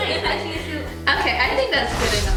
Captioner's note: laughter